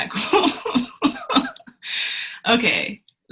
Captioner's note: laughs